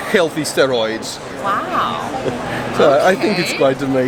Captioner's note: chuckles